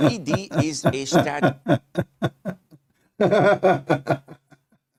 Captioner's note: Ketawa